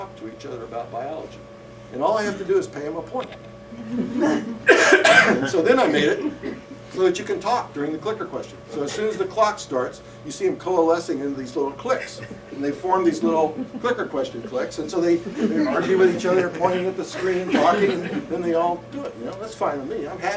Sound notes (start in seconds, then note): 3.7 laughter